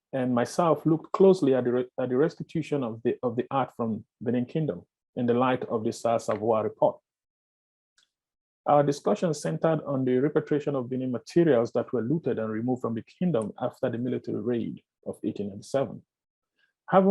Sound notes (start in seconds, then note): none